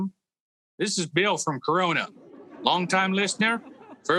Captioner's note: audience laughing